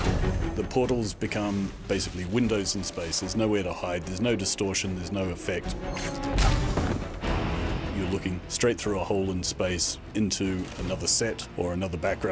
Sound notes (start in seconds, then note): none